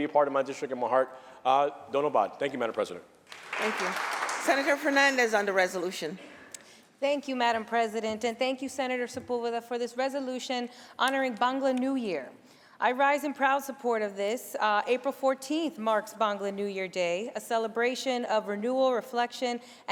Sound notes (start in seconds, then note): 3.2 applause